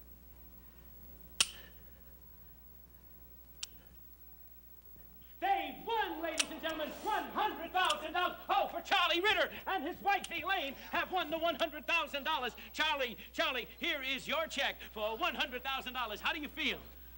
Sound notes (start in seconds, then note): 1.4 click; 6.3 gun clicks